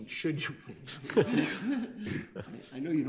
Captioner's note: crowd laughing